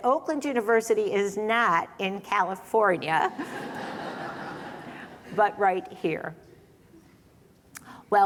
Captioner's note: laughter